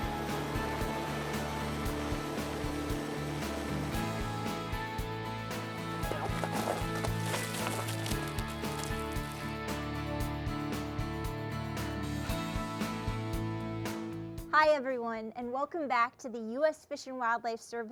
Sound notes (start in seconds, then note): 0.1 helicopter sound; 5.4 animals being released sound